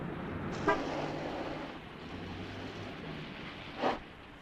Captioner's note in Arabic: هدير محرك السيارة; صوت بوق السيارة